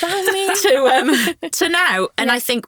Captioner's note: all chuckling